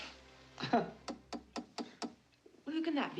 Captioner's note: KNOCKlNG